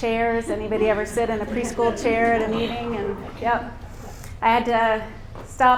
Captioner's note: laughter